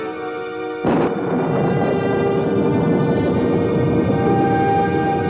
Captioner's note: thunder continues rumbling